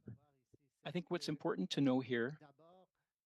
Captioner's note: speaking French